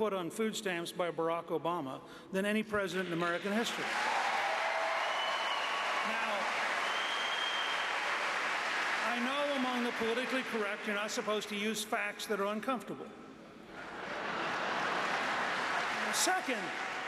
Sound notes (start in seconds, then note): 4.2 applause; 13.7 laughter; 13.8 applause